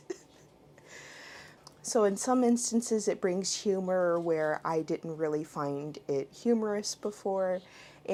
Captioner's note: chuckles